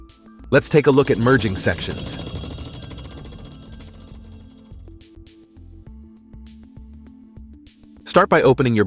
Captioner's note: gears spinning